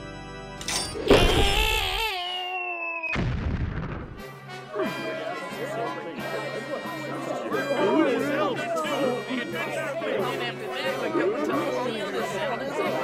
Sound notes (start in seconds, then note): 1.2 DRAGMIRE screams; 3.1 explosion